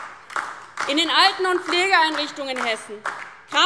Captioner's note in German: Beifall DIE LINKE und SPD